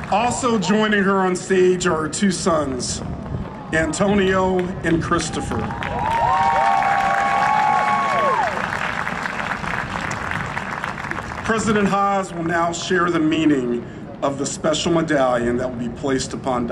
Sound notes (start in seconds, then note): 5.2 huge Cheering and Applause